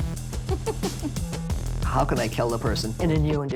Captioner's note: laughing